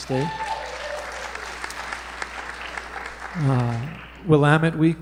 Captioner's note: applause